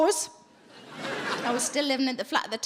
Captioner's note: audience laughing